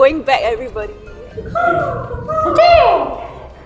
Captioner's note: bird noises